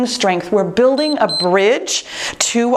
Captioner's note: timer beeps